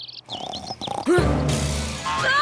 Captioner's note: gasps